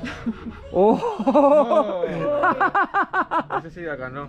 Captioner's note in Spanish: Risas